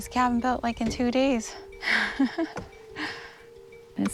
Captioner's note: chuckles